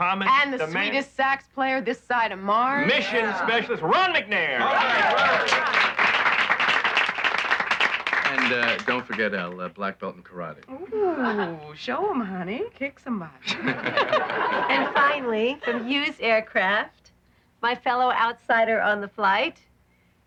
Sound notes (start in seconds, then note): 4.6 applauding; 13.5 laughing